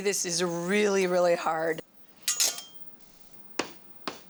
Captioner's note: utensils tap lightly